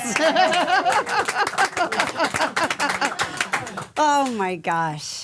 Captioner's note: hosts and crew clapping